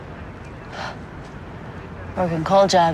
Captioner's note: sighs